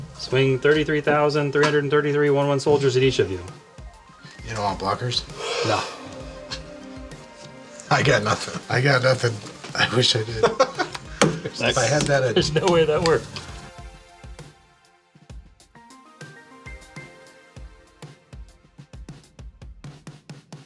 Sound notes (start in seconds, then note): 5.5 all laughing; 13.5 outro Music